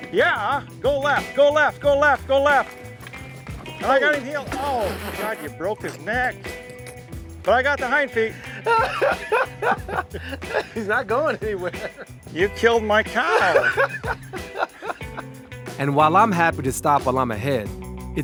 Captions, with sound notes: Yeah, go left, go left, go left, go left. Now, I got the hind... Oh God, you broke his neck. But I got the hind feet. (Baratunde laughing) - He's not going anywhere. - You killed my cow. (Baratunde laughing) - And while I'm happy to stop while I'm ahead,